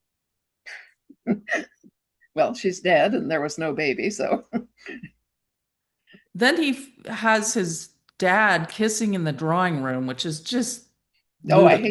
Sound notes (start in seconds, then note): 0.7 blows out, shrugs, chuckles; 4.3 chuckles